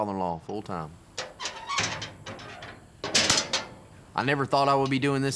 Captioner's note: clanging, locking sound